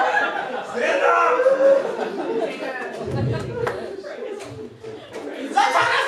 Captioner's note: sobbing